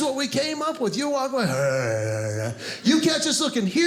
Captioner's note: grunt